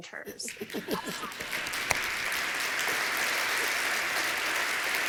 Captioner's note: applause